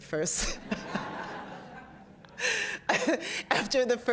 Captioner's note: laughter